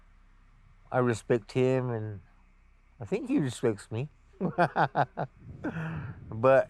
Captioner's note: laughs